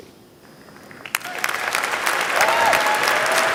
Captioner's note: applause